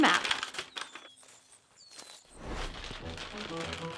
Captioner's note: birds chirping; paper rustling